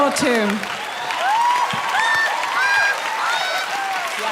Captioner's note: people laughing